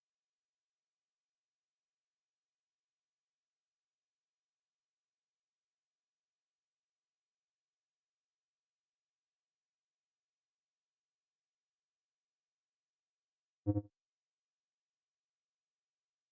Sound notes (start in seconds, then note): 0.0 silence